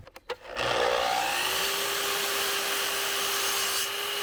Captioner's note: saw whirring